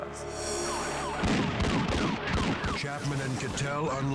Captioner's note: gun firing